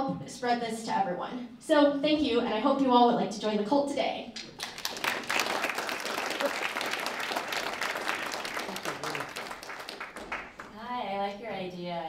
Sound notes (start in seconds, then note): 4.4 applause